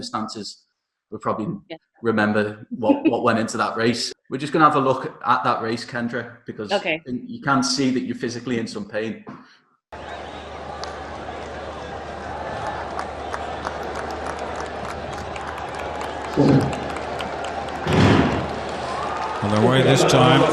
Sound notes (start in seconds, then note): 10.9 crowd cheering; 18.6 starting pistol firing